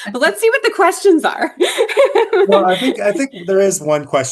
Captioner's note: laughter